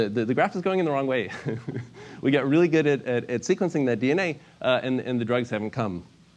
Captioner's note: laugh